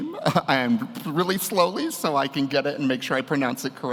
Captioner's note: chuckles